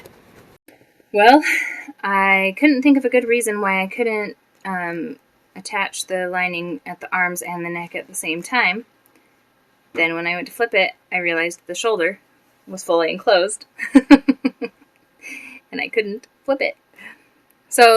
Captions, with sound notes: Well, I couldn't think of a good reason why I couldn't, um, attach the lining at the arms and the neck at the same time, Then, when I went to flip it I realized the shoulder was fully enclosed. (chuckle) and I couldn't flip it!